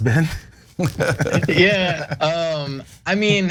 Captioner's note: laugh